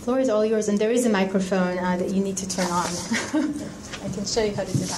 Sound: laughs

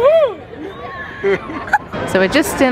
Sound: laughing

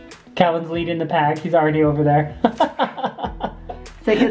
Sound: laughs

